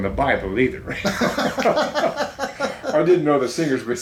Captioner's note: both laughing